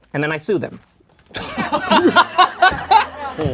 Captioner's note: group laughs